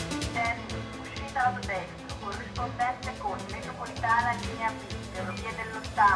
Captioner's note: automated announcments